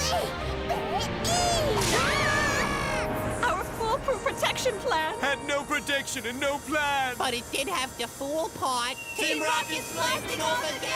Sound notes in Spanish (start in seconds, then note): 1.4 gritan